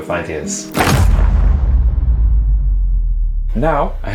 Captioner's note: ominous boom